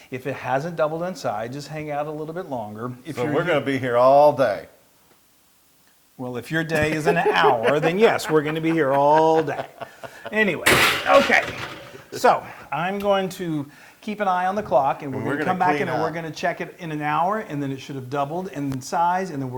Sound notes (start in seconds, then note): 6.7 laugh